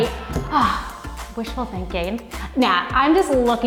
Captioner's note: sighs